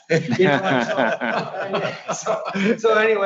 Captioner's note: laughing